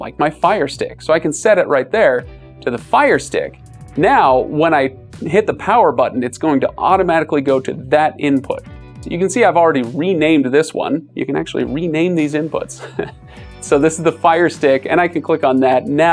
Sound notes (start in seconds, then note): 12.8 chuckles